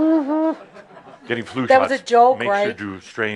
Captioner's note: some chuckles